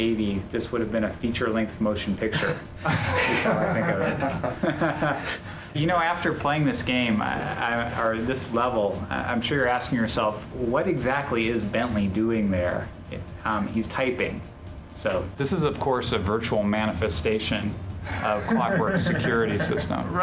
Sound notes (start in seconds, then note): 2.3 laughing